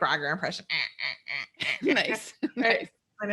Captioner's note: quacks